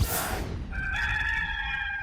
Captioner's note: rooster crowing